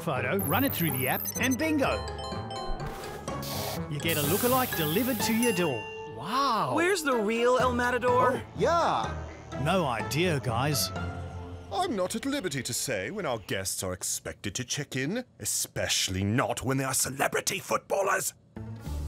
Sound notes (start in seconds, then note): 2.1 beeping